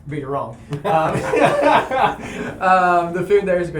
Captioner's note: laughter